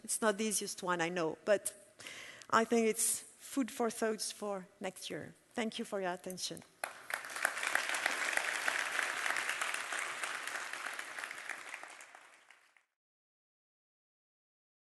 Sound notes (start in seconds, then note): 6.8 applauding